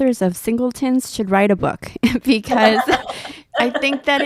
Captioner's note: chuckles